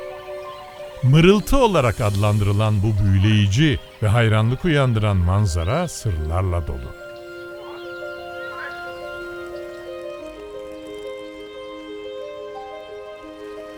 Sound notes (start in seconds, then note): 1.0 murmur